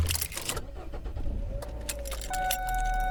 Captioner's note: jingling keys; car engine starts; seatbelt alarm dinging